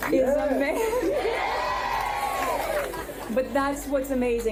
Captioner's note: audience cheering